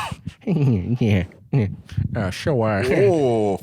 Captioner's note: still doing Peter's laugh